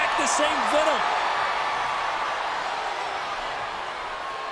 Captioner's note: crowd yelling